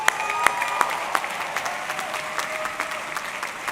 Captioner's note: audience clapping